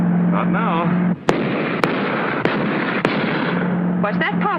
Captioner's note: gunshots